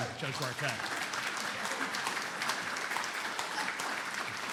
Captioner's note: audience applauding